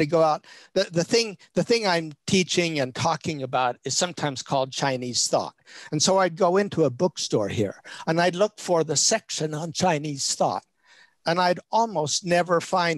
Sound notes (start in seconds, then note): none